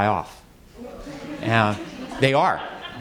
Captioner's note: audience laughs